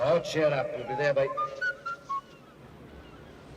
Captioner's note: whistling